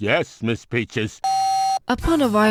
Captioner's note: dial tone